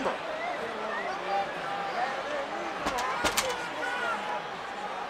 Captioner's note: crowd murmuring